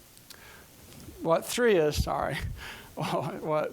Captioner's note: chuckling